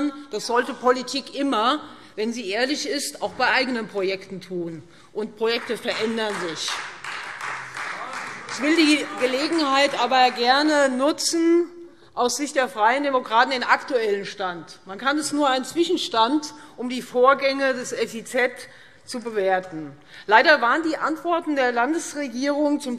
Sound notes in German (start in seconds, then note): 5.5 Beifall Freie Demokraten